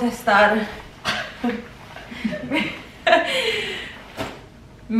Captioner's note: laughter